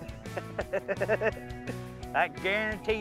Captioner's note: laughter